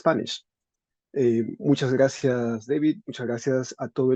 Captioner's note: speaking spanish